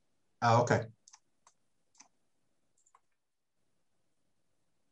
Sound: mouse clicking

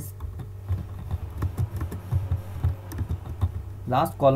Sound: typing Sound

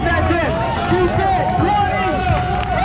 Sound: crowd cheering

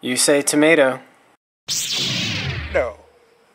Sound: lightsaber hiss

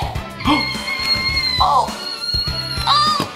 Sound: balloon squeaking

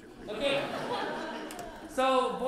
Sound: laughter

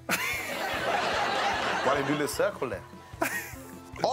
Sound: all laughing

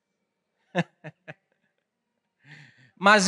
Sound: laughing

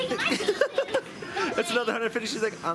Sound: laughing

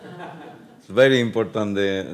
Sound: speaking Spanish; audience laughs

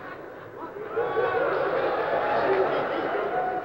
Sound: murmurs and boos

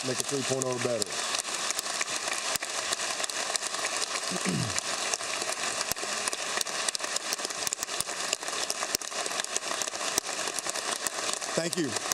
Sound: applause

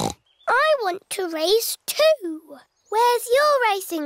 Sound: snorts

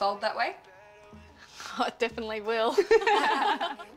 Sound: laughter

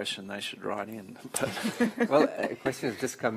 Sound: laughter

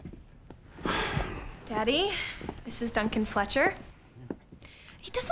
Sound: Richmond Sighs

